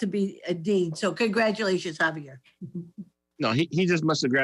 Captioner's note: laughs